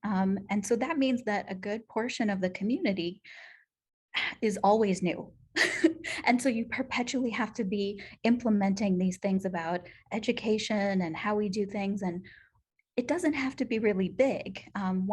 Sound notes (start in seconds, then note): 5.6 laughter